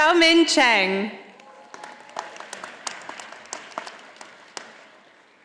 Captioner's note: audience applauding